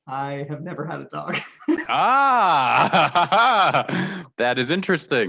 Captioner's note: laughter